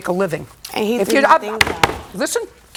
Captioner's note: raps desk